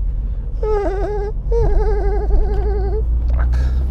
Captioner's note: imitates tyre squealing